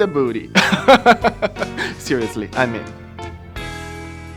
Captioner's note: laughing; romantic music playing